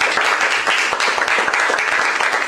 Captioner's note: applause